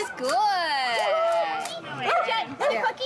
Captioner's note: camera shutter clicking; dogs barking